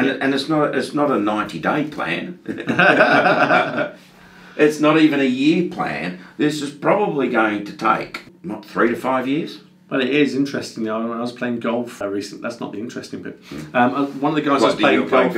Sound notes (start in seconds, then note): 2.4 both men laughing